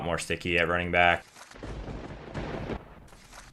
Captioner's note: thunder crashing